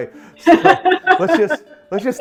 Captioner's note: laughs